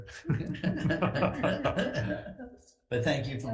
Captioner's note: laugh